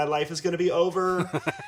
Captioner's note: laughing